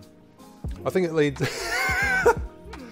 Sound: laughs

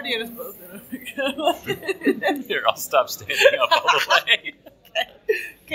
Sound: laughs

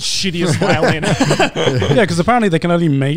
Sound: everyone laughs

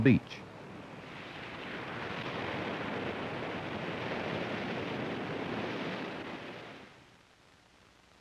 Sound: ocean waves washing inland

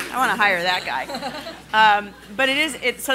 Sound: laughing

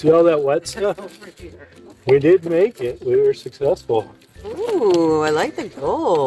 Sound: laughs

